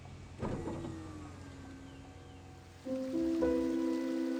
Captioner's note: machine whirring; calm piano music